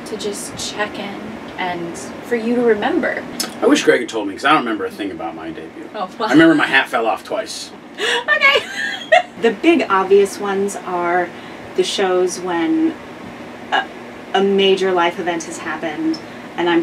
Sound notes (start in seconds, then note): 8.0 laughs